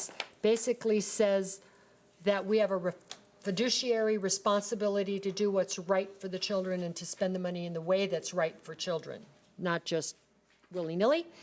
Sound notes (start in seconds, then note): none